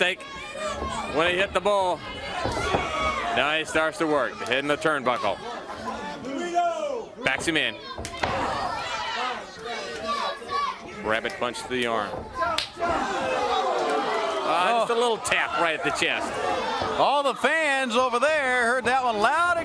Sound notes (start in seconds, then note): 0.1 crowd chatter; 8.7 crowd chatter; 14.4 crowd chatter